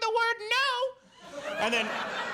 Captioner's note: audience laughs